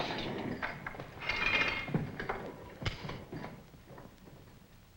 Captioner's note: chain clinks